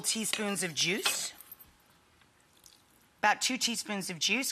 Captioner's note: knife clanging